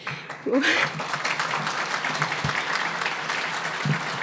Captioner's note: audience applauding